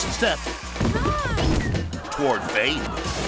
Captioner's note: bodies thudding